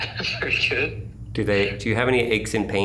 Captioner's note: chuckling